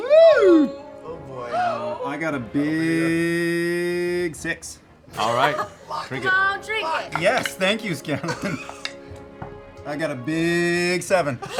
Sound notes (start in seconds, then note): 7.5 whispers